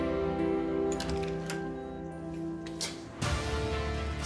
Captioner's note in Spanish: sonido al abrir la puerta